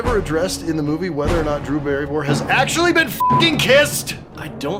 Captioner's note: beeping